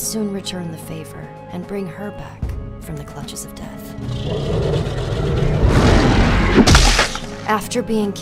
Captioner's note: roar, crunch